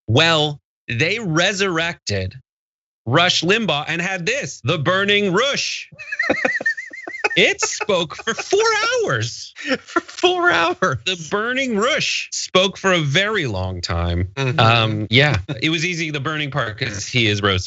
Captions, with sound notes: Well, they resurrected Rush Limbaugh and had this, the burning Rush. [LAUGH] >> It spoke for four hours. Four hours. The burning Rush spoke for a very long time. Yeah, it was easy. The burning Park he is roasting in